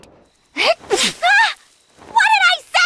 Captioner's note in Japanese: くしゃみ